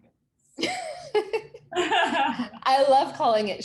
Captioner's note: laughs